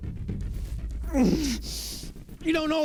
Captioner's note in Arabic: آهات